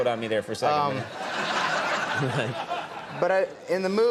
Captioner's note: audience laughing